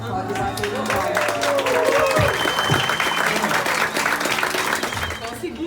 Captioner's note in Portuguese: aplausos